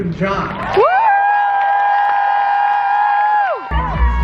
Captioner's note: crowd cheering